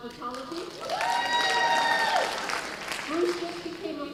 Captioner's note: cheers and applause